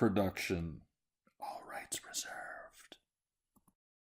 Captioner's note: whispers